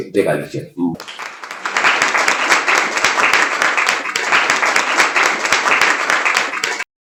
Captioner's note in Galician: Aplauso